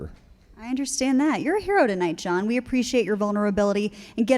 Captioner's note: none